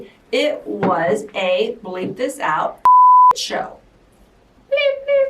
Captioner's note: beep